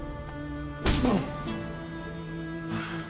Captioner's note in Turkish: Yumruk atma sesi